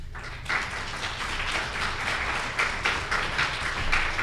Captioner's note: applause